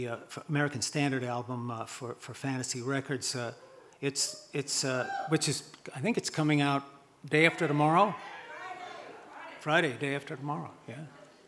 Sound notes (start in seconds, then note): 5.0 audience cheers and hoots; 7.4 audience yelling